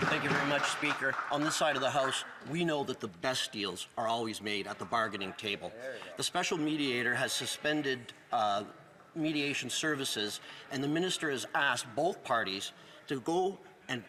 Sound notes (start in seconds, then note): 0.0 some Applause